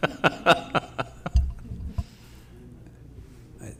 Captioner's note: laughing